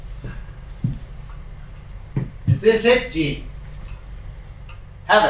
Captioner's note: none